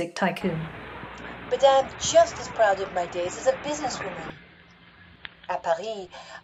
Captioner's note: old radio recording